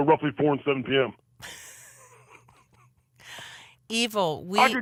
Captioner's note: laughs